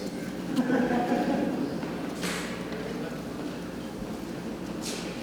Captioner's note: attendees laugh